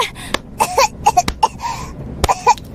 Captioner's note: coughing